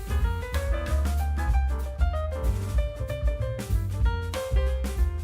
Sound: none

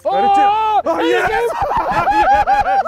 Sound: laughs

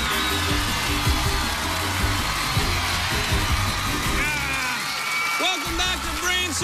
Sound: cheers and applause

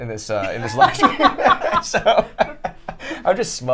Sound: both laugh

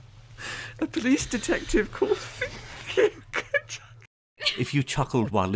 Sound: laughter

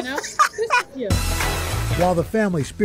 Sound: laughter

